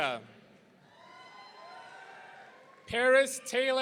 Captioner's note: audience cheering